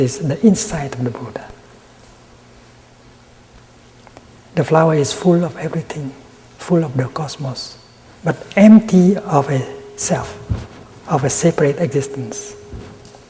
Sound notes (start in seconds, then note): none